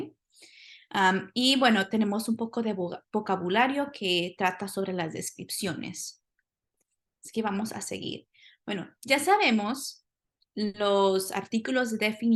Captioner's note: spanish; speaking spanish